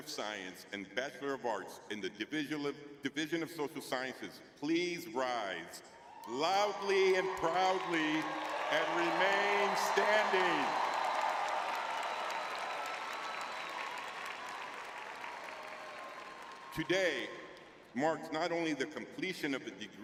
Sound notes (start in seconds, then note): 11.2 crowd cheering